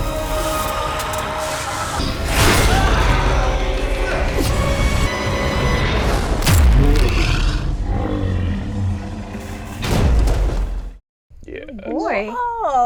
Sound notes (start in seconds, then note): 0.2 grunting; 5.5 guttural groaning